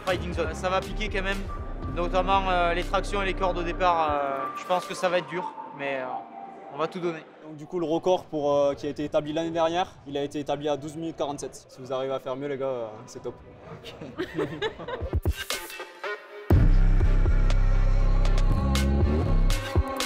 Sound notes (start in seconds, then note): 13.7 laughs